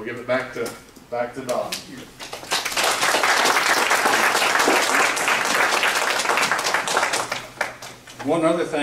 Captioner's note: applause